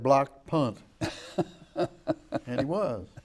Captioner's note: laughing